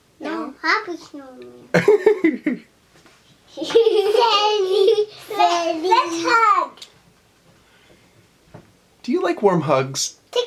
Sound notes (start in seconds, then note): 1.7 laughter